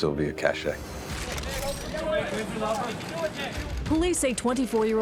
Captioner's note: camera shutters clicking, indistinct shouting